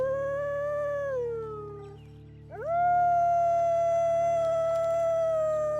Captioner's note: one of the wolves start howling